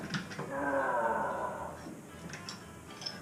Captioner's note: grunts